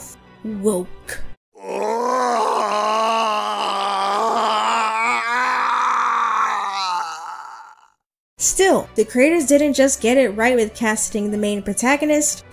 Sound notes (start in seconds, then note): 1.5 Xemnas screaming offscreen